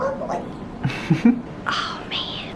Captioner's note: chuckles